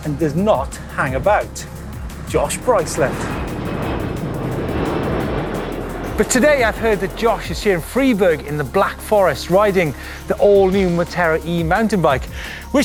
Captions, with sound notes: and does not hang about. Josh Bryceland. (plane engine roars) But today I heard Josh is here in Freiburg in the Black Forest riding the all new Moterra E-mountain bike.